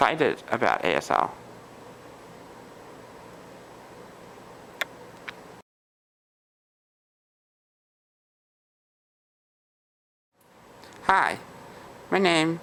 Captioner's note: pause